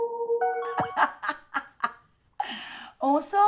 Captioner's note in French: rire